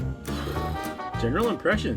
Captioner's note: making noises with mouths